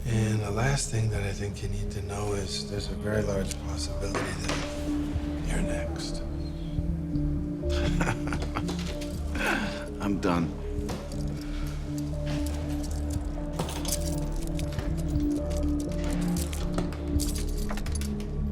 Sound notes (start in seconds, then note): 7.7 chuckles; 14.1 ominous music fades up